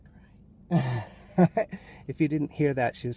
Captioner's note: laughs